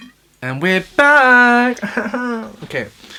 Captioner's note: chuckles